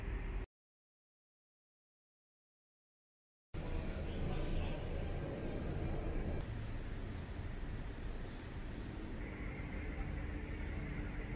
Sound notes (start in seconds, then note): 0.0 silence; 3.6 surprise bird chirping noises